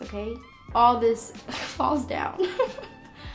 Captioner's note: laughs